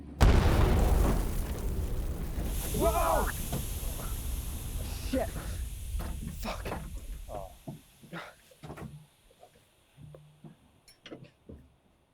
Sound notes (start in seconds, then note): 0.0 land mine explodes; 6.0 tank hisses